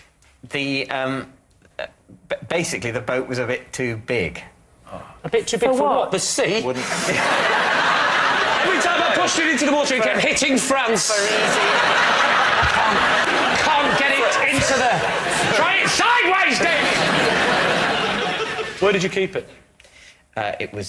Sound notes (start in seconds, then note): 6.8 laughter; 14.8 shouting